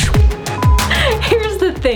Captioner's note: upbeat music; error beep